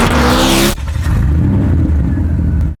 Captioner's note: cars zooming; engine purrs